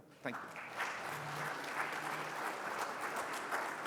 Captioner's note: attendees clapping